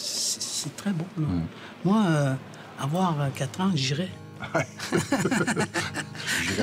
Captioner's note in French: rires